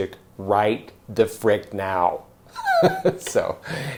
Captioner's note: laughs